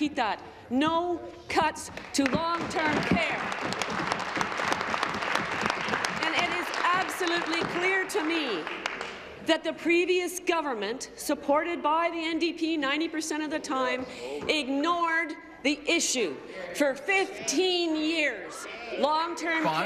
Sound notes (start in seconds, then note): 6.6 applause